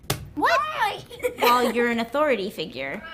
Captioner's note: laugh